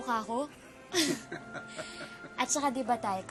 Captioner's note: laughing